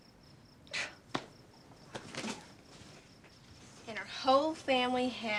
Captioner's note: Sarah scoffs